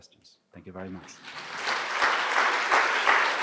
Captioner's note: applause